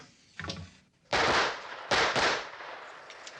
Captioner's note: gunfire